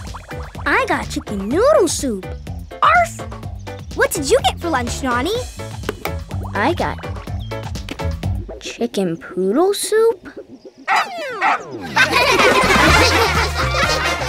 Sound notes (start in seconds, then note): 10.9 laughing; 11.3 barking